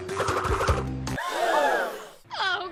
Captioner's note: crowd gasps